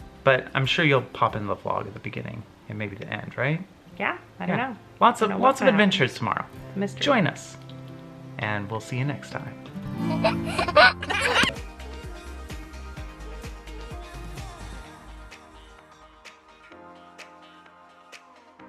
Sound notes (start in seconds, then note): 10.0 giggles; 12.0 upbeat music